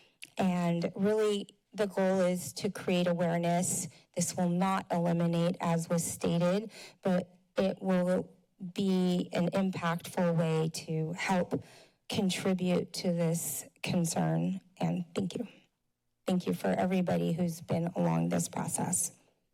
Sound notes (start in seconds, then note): none